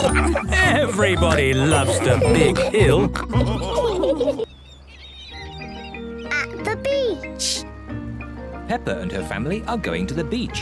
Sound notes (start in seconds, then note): 3.2 all laughing